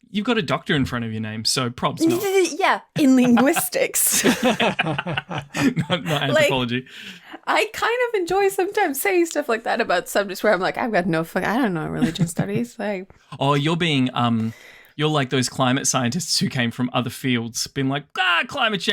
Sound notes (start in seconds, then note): 4.7 laughter